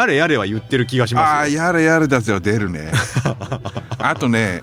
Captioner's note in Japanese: 笑い